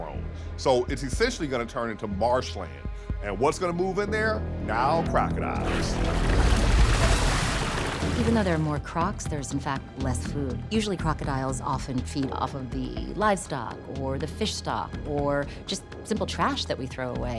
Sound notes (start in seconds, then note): 5.5 water splashing